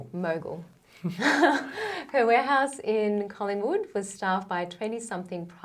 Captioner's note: chuckles